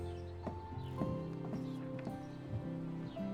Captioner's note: knocking